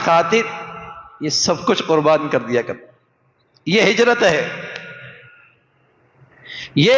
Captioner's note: sigh